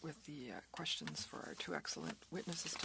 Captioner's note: speaking french